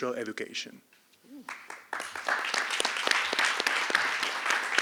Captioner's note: applause